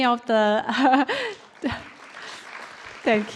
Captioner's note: applause